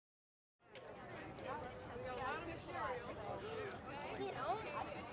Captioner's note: indistinct chatter